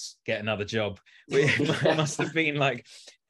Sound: all laughing

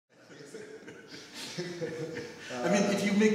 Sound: laughing

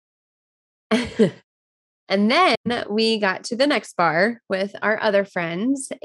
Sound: laughs

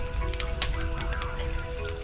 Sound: fire crackles

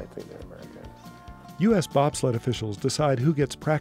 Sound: voiceover

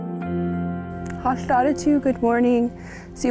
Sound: gentle music; speaks native language

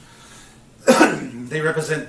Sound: coughs

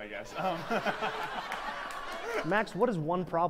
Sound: laughter

